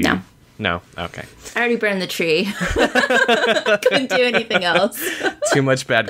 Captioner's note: laughter